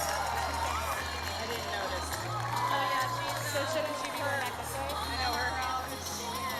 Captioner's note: cheering